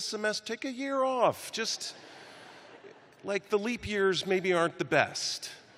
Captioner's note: laughter